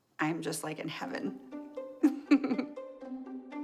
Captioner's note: laughs